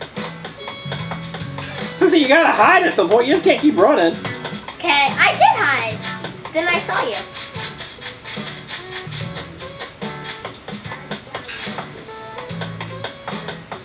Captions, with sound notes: Assistant, you gotta hide at some point! You just can't keep running! - Okay. I did hide! Then I saw you. (footsteps)